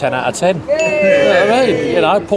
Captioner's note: everyone cheers